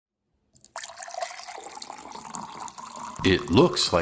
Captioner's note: pouring Water